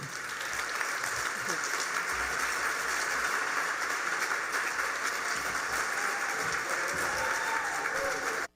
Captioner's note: applause